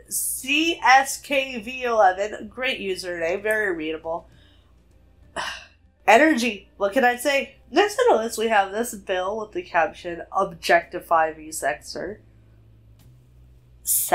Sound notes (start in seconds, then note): 5.3 sighs